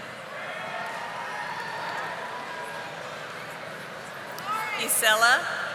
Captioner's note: audience applauding